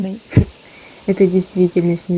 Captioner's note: laugh…